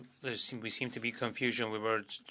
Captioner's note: speaking French